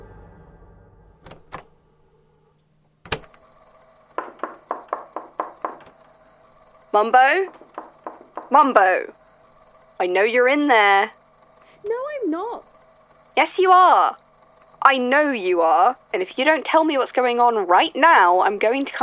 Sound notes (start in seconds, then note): 1.2 click; 1.8 rapid knocking